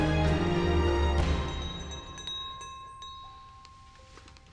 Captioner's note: bell rings